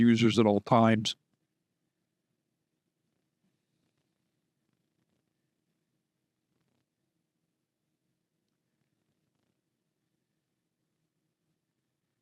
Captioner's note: silence